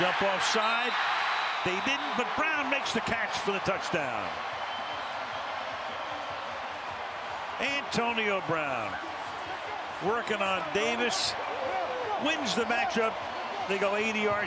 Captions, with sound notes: They almost jump off side. They didn't, but Brown makes the catch for the touchdown. [cheers, applause] Antonio Brown, working on Davis, wins the match-up.